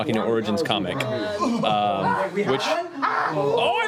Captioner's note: shouts of excitement